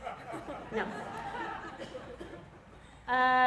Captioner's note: laugh